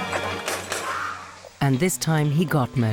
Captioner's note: gun firing